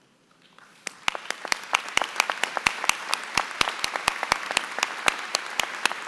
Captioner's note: applause